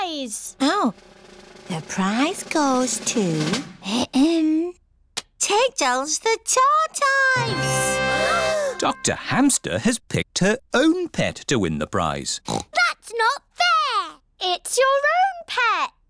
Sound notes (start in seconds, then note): 3.5 clears throat; 8.4 all gasp; 12.4 oinks